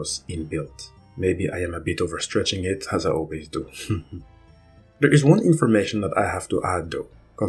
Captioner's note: laughs